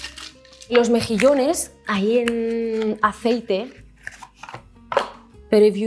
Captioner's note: speaks in Spanish